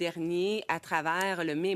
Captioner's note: speaking French